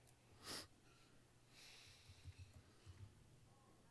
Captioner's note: sniffs